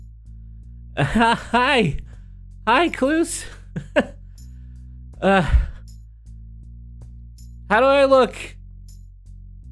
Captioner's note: chuckles